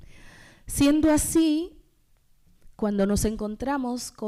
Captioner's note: speaking spanish